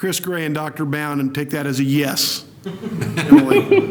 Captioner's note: laughter